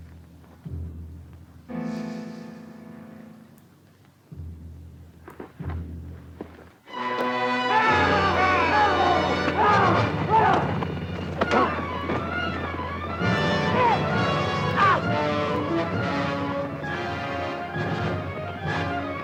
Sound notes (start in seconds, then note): 7.2 dramatic orchestral music; 7.6 Jeff and Greer yell